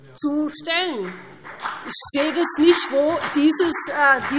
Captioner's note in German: Beifall BÜNDNIS 90/DIE GRÜNEN und vereinzelt CDU